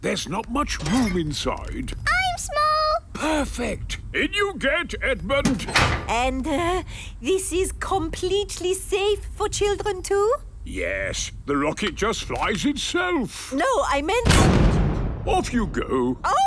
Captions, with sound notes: there's not much room inside. - I'm small! - Perfect. In you get, Edmond! And, er... this is completely safe for children too? - Yes. The rocket just flies itself. - No, I meant-- - (blasts off) - Off, you go!